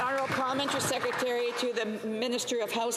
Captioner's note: applause